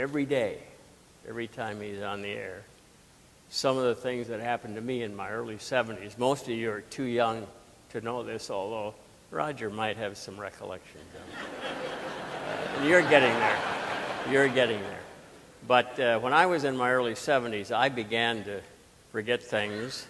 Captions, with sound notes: every day, every time he's on the air, some of the things that happened to me in my early 70s. Most of you are too young to know this, although Roger might have some recollection. (audience laughing) You're getting there, you're getting there. But when I was in my early 70s, I began to forget things.